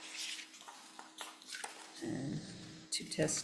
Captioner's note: papers rustle